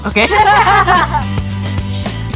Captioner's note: both laughing